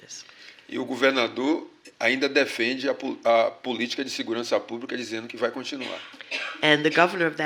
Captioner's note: speaking portuguese